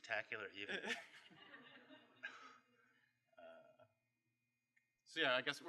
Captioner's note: laughter